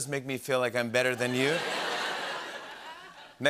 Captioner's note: laughter